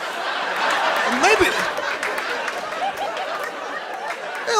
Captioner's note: laughter